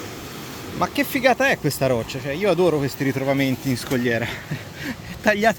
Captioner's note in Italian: risate